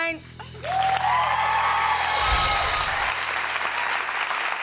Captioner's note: cheers and applause